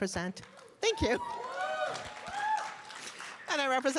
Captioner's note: cheers and applause